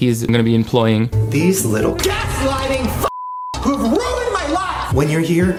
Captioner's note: beep